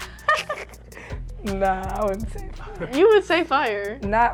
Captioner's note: laughing